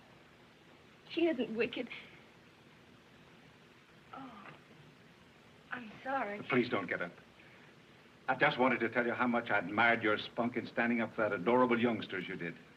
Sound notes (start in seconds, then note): none